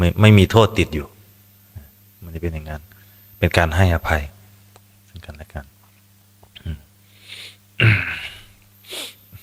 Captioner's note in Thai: เสียงสูดหายใจ